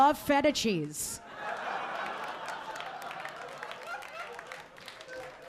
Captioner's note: audience laughing